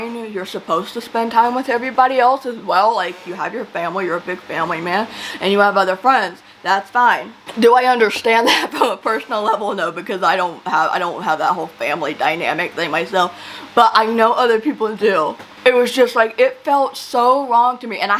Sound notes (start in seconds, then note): 8.1 laughs